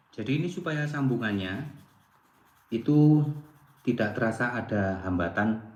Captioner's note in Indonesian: none